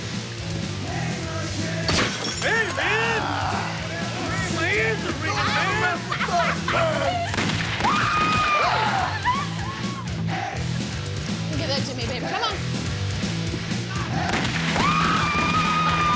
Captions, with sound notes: (bottle breaking) Hey, man! My ears are ringing, man! Don't mess with our turf! Whoo! Give that to me baby, come on! Whoo!